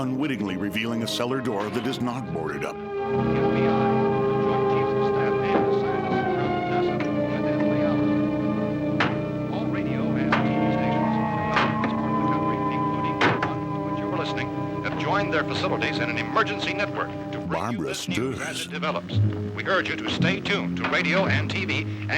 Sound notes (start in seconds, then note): 0.1 music swelling; 9.4 radio